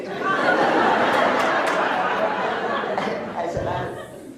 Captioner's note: laughs